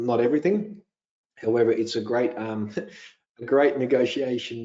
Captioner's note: chuckles